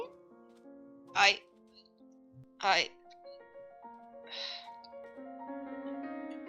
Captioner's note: sigh